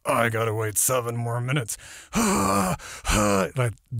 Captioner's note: breathing heavily